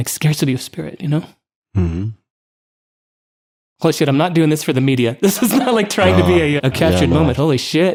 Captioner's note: crying